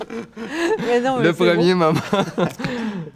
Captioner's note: laughs